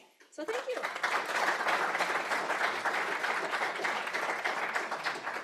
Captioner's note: applause